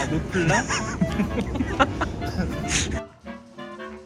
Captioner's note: laughing nonstop